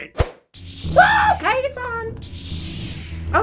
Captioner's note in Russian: шум светового меча